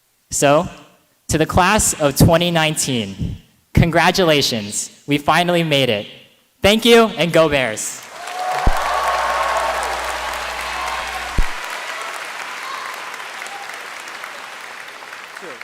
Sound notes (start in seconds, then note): 8.0 applause